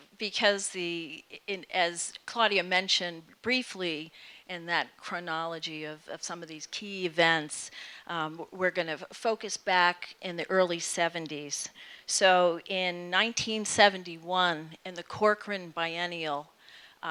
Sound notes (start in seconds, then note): none